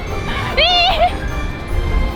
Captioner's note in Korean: 웃음; 비명